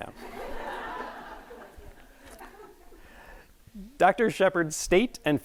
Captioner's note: audience laughing